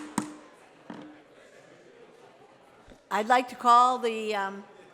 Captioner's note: gavel pounding